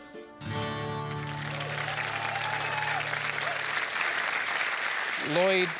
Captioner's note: applause